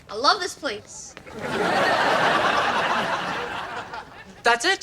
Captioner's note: audience laughs